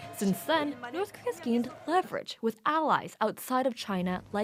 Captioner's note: speaking alternate language